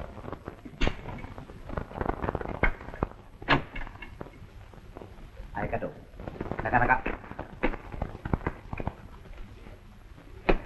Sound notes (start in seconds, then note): 5.3 speaking japanese